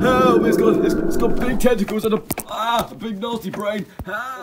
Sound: Doofy screams

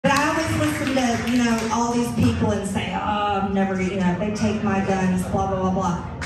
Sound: applause

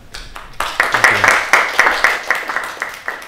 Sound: applause

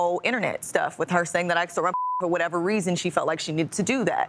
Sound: beep

